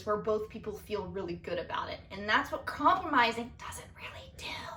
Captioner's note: whispers